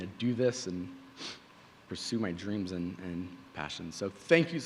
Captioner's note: sniffling